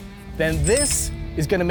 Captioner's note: metal jangles